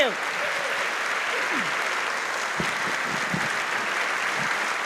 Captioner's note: applause